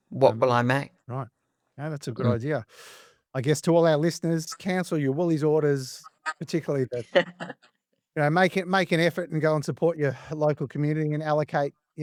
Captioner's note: laughing